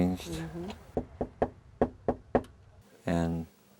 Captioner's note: knocking